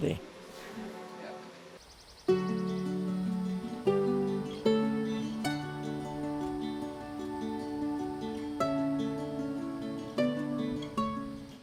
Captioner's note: birds calling